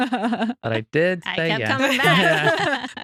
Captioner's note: laughing